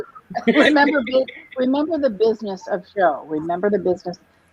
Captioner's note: laughter